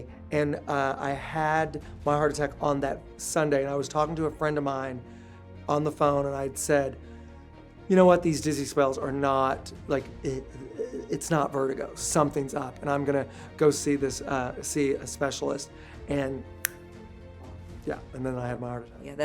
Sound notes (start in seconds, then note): 16.6 snaps fingers